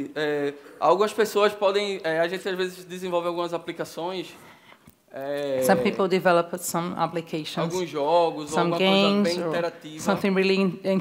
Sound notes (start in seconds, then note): 2.1 speaking Portuguese